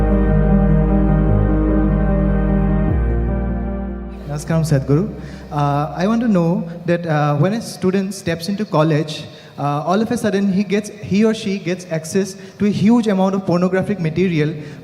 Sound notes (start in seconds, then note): none